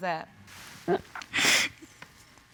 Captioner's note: sobs